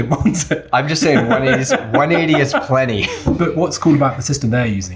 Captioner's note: laughing